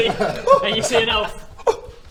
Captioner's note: gasp